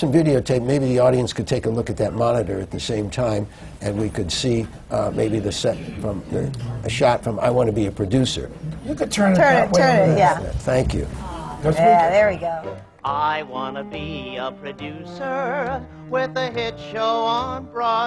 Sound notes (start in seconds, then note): 11.0 audience gasps; 13.9 sings